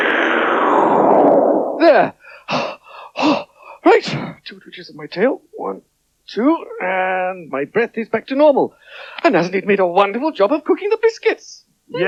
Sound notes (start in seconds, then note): 2.2 gasps